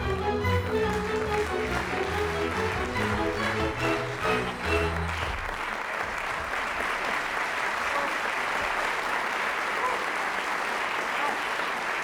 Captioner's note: applause